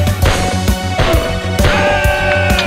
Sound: M16 gun sync with music

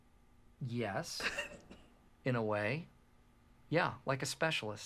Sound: laughs

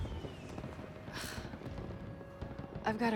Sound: sigh

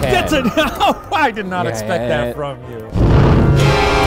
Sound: laugh; spooky music

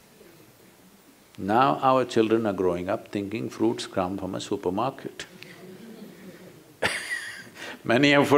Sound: laughter

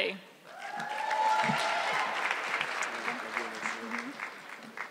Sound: audience clapping

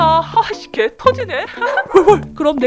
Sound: haha!

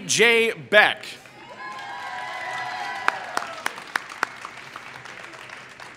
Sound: applause

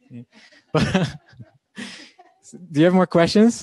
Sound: laughing

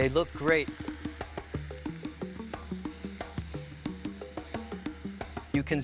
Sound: grill sizzling; percussive music

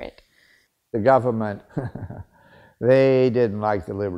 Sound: laughs

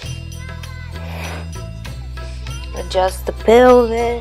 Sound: loud breathing

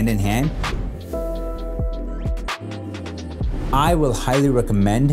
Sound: gentle beats; whoosh sound

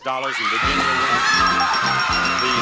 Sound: loud cheers

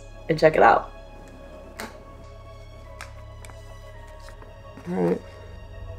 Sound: background music; light switch click noise; background music

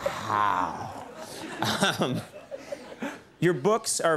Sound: audience laughs; chuckle

